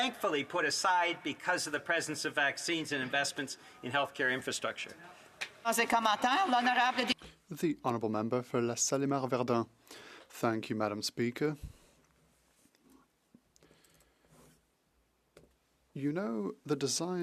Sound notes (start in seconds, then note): 13.2 speaking French